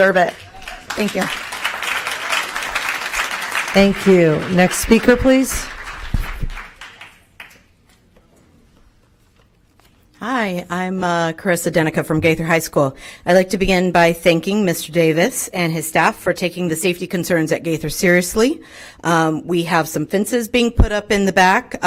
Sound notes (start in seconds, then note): 7.7 applause